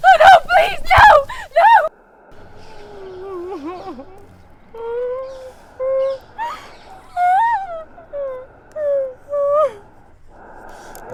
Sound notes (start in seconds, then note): 4.7 documentarian whimpering and crying